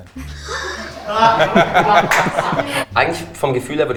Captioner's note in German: Gruppe lacht, er auch